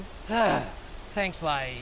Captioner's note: exhale